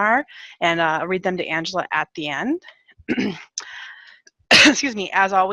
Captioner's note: coughs